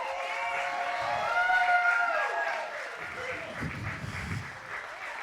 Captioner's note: audience applauds and cheers